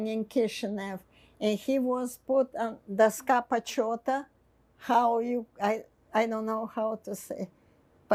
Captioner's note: russian